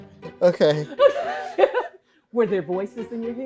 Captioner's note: laughing